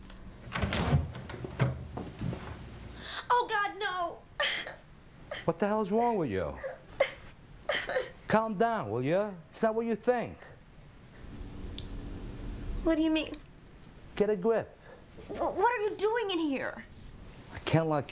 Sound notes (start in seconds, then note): 0.4 door clicks; 7.7 Lee crying